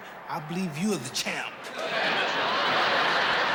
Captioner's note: laughter